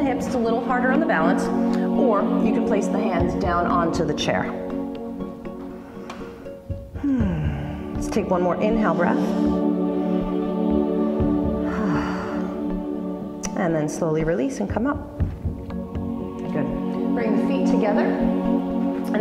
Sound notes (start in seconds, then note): 5.6 exhale; 11.6 exhale; 11.6 inhale